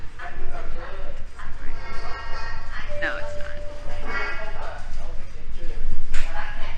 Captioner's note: laughs